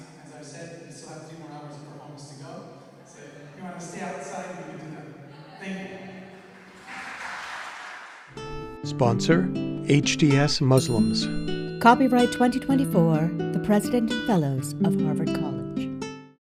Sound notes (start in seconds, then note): 6.3 applause